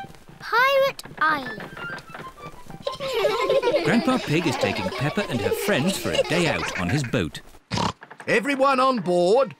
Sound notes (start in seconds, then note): 2.7 children laughing; 7.7 oinks